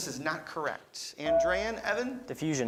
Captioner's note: beeping